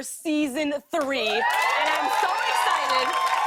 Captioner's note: cheers and applause